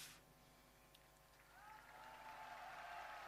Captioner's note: applause